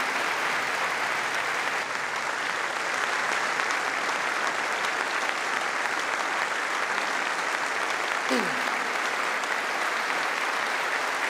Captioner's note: applause